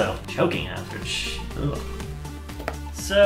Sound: sound of disgust

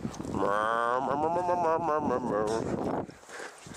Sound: speaking in lama tongue

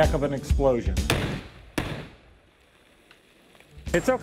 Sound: explosion

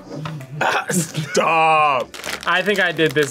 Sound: laughs

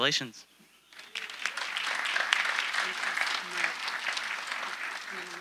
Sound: audience applauding

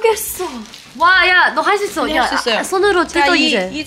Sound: the small crack elicits cheers

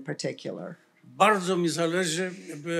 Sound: foreign language

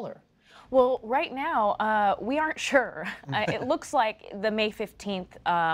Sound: laughter

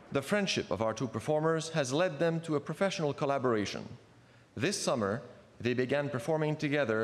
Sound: speaking French

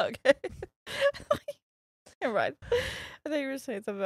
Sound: laughing

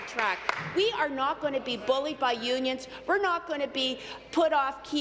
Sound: applause

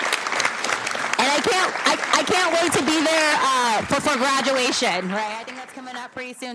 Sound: applause

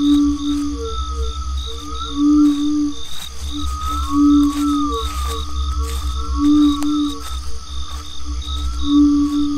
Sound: water, crickets

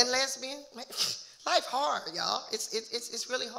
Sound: scoffs

